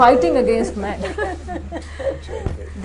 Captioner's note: laughter